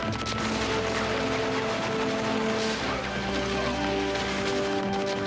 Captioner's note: solemn music; guns fire